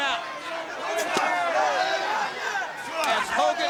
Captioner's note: crowd cheering; wrestlers grunting